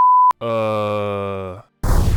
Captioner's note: back to Normal Voice; scalpel Missles Firing